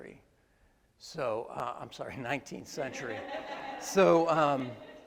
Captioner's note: attendees laugh